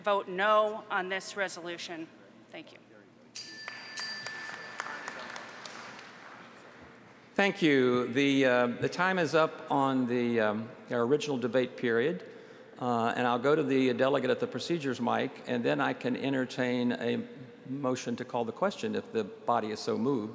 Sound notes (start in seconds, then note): 8.8 applause